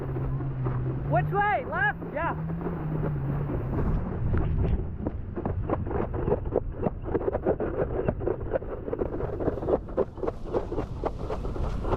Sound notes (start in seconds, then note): 5.7 board bumping over waves